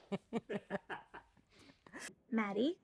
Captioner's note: all laughing